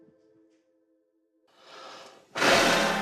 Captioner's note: exhales strongly